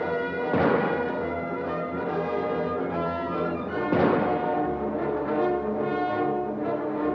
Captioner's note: adventurous music; gunshots blasting